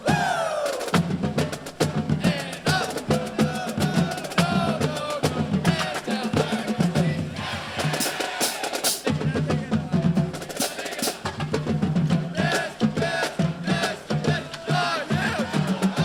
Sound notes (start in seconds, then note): 4.0 drum beating; 5.5 band chanting